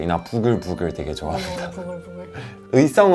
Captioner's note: sound of something boiling